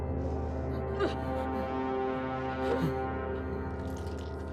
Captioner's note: crying